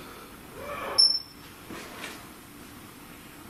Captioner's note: beeps